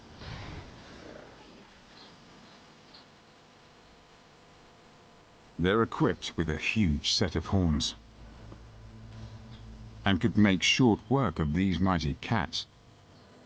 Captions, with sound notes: and could make short work of these mighty cats. (dramatic music) (birds chirping)